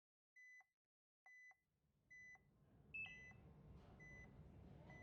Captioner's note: heart monitor beeping